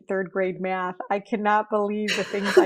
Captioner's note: laughing